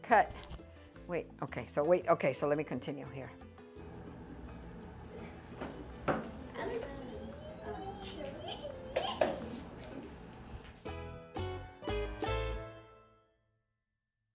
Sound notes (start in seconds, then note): 6.5 laughing; 10.9 upbeat music